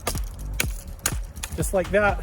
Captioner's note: ax chopping